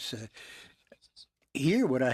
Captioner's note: speaking French